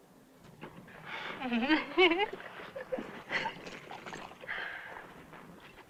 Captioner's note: laugh